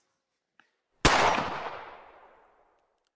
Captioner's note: gun shot